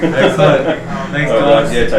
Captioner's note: laughter